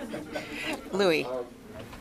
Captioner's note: laughing